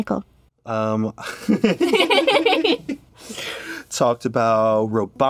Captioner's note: both giggle